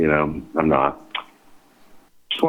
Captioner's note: clucks